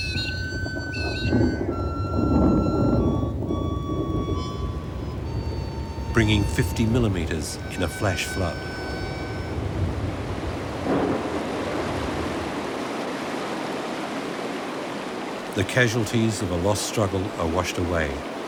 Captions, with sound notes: (thunder rumbling) Bringing 50 millimeters in a flash flood. (water rushing) The causalities of a lost struggle are washed away.